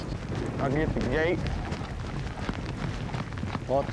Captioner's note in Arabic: ضربات حوافر